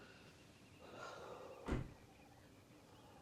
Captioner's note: car door closing; sighing